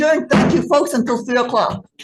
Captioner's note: gavel thudding